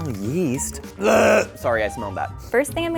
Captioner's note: gagging